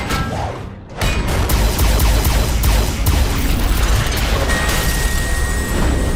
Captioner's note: gun blasts